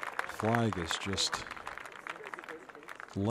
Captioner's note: applause